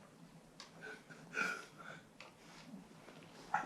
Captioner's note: whimpers